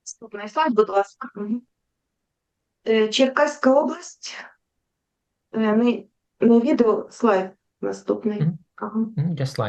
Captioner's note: foreign Language